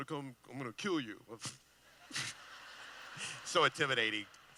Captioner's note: laughing